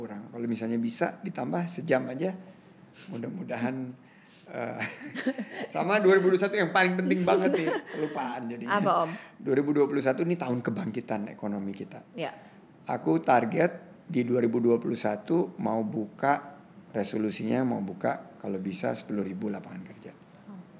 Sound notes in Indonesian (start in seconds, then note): 4.8 tertawa